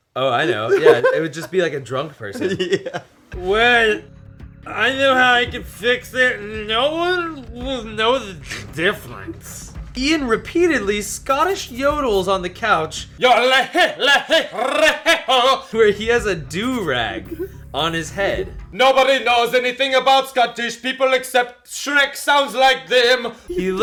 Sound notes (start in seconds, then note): 3.4 slurred